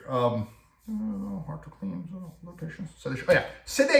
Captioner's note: whisper